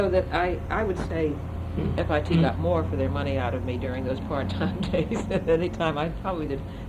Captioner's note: laughs